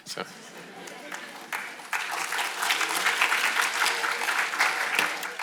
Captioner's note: audience applauding